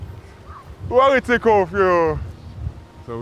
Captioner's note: in French Creole